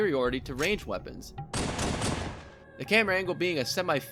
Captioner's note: bang bang bang